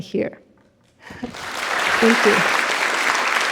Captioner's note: audience applauds